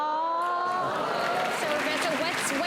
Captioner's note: crowd applause